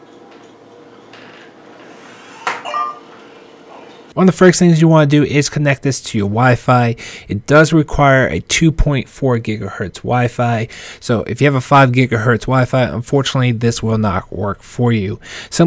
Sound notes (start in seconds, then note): 2.6 rings softly